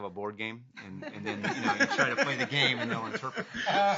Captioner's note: laughing